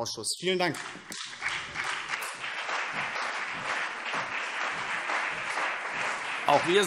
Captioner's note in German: Beifall BÜNDNIS 90/DIE GRÜNEN und CDU